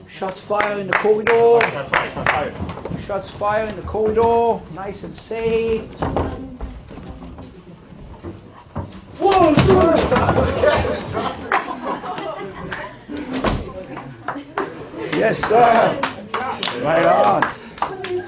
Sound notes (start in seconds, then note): 9.4 attack noise; 10.2 laughter and applause